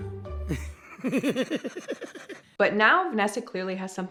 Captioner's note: laughing